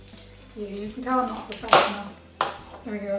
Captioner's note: knife hits chopping board triumphantly